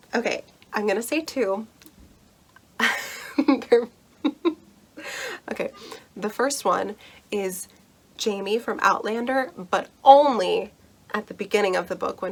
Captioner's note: nervous laughter